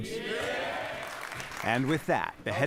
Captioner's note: cheering and applause